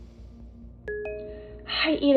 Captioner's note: phone beeps